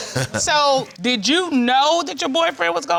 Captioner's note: laughs